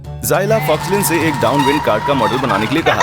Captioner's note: wheels screeching; laughing